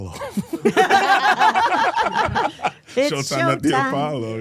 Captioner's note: all laughing